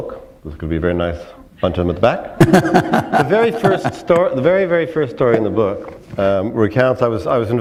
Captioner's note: chuckle